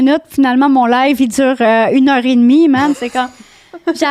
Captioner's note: in french